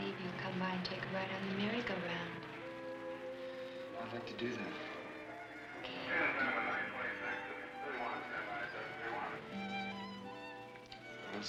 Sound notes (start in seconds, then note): 6.8 melancholy music; 6.8 voice over radio; 9.6 melancholy music